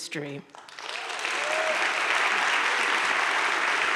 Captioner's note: audience claps